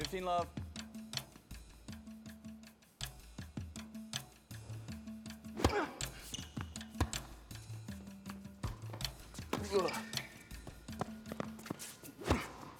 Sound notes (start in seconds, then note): 5.5 racket smacking; 5.6 Marshall grunting; 7.0 ball bouncing; 9.6 Phillip grunting; 12.5 racket smacking